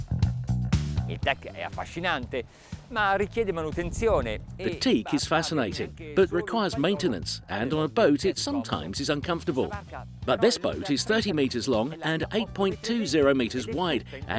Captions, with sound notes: (speaks in foreign language) The teak is fascinating, but requires maintenance, and on a boat, it sometimes is uncomfortable. But this boat is 30 meters long and 8.20 meters wide,